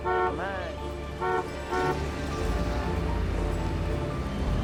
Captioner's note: horn honks